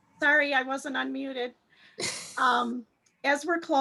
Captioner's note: laughs